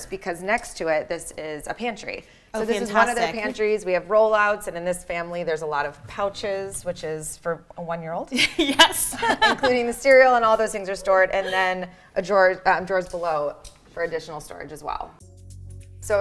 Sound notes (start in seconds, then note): 8.6 laughs